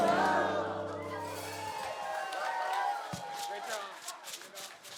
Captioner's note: applause